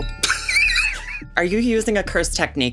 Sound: laughs

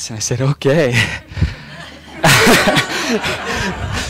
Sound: laughing

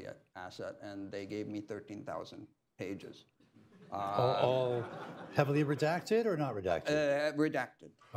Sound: laughter

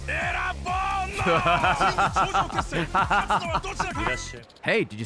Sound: laughs

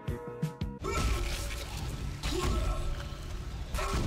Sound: manly grunting

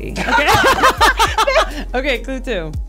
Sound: all laughing

